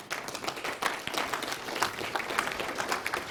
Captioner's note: applause